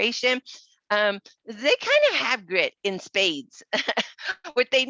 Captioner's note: laughs